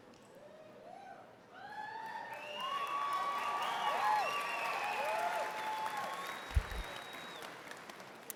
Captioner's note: applause